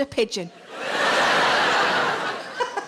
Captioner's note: audience laughing; Sarah chuckling loudly